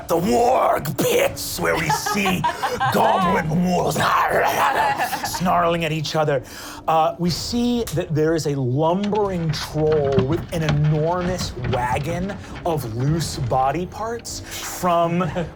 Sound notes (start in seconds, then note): 4.4 growling